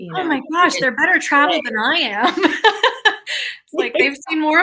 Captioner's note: laughs